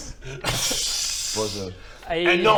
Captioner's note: hissing in disbelief